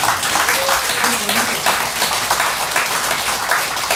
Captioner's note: applause